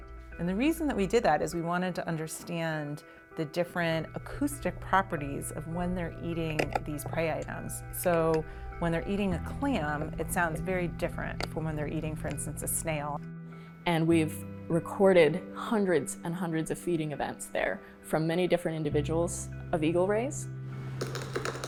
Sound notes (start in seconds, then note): 7.3 clam crushing